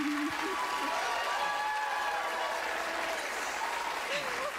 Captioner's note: cheers and applause; laughing